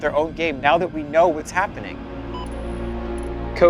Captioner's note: machines beep